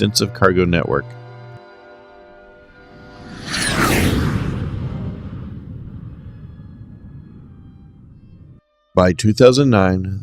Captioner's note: jet Whoosh